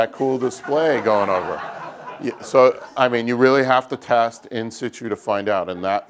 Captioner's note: laugh